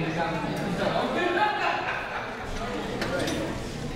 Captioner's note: laughs